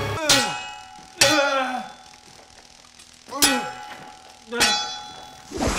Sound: grunting fiercely; groaning weakly

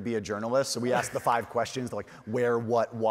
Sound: chuckles

